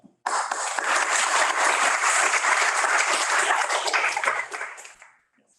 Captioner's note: lecture hall applauding